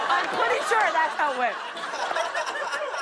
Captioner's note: laughter